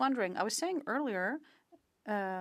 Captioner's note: speaking French